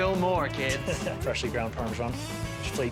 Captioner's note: laughing